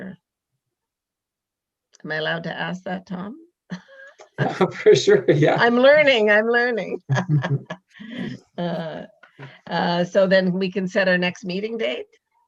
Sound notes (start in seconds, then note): 3.8 chuckles; 6.9 laughs